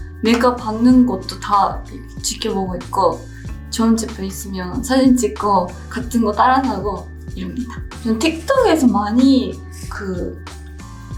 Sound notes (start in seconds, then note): 5.0 foreign language continues; 5.0 gentle music continues